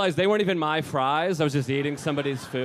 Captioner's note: audience laughing